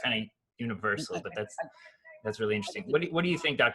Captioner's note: laughs